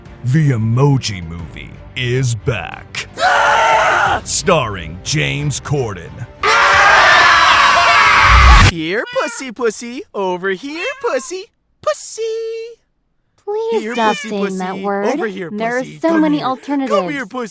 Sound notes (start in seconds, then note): 3.2 scream; 6.4 whole theater screaming